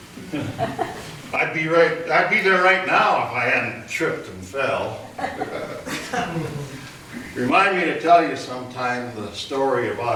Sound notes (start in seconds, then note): 5.0 audience laughter